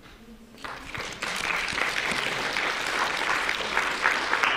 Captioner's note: audience clapping